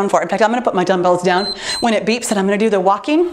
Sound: timer beeps

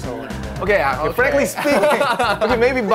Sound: host laughs

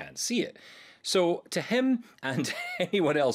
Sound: chuckling

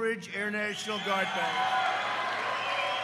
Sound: applause

